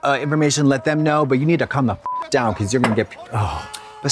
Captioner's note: beep